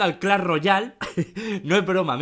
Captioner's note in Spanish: Risas